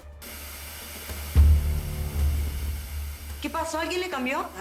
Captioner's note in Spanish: Sonido al perder la transmisión